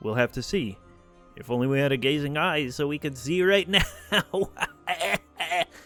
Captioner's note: exaggerated laughing